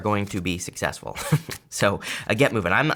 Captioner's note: laughs